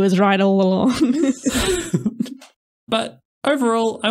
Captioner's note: laughter